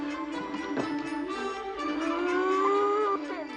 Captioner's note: moaning; muffled laughing